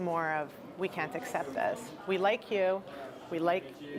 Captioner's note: none